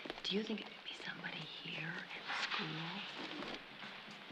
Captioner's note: whispering